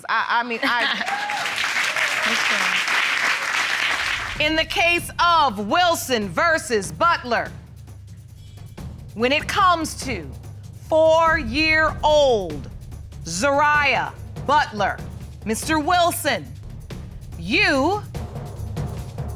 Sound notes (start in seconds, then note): 0.8 audience cheer, applaud